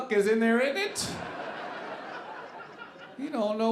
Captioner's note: audience laughing